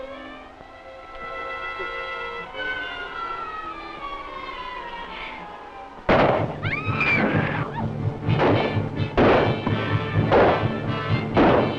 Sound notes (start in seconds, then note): 5.8 gunshot, screaming; 8.2 gunshots